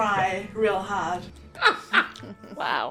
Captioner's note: laughing